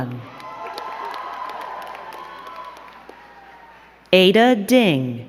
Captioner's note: crowd cheering and clapping